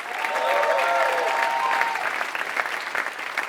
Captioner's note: applause